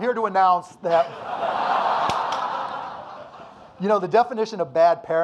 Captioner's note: audience laughing